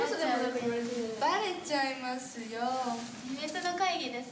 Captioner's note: speaking Japanese